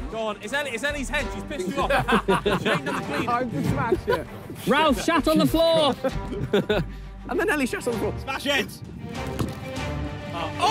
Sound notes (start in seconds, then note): 1.5 players laugh